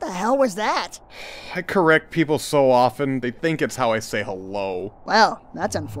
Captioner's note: sigh